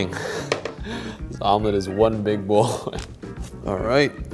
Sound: laughs; laughs

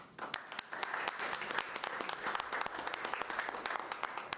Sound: audience applauds

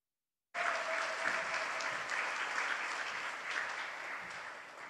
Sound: audience applauds

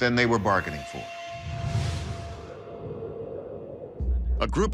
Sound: wind blowing

